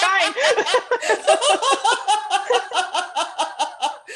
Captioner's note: laughter